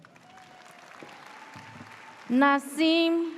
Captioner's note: audience cheers